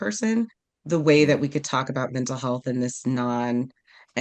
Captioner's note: none